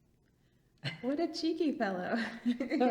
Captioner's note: laughs